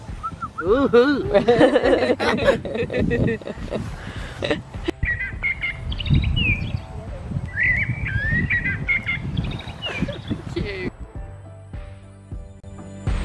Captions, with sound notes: Oooh hoo! (Group laughter) Thank you